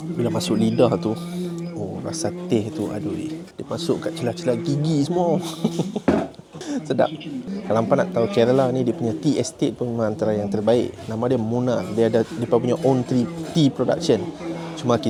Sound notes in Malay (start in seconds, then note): 6.3 laugh